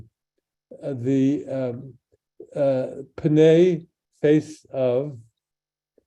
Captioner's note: speaks in Hebrew